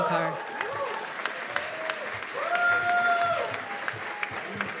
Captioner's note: cheers and applause